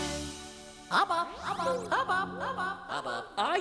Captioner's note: echoing